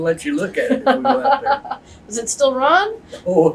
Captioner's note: laughter